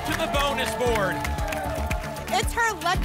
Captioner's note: applause and cheering